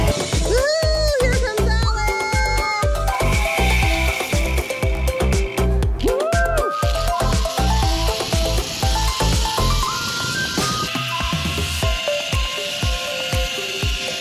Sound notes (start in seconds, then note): 4.1 upbeat music; 6.0 someone cheering; 8.9 upbeat music